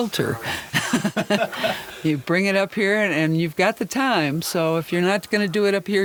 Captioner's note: laughs